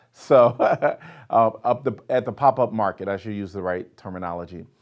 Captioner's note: laughs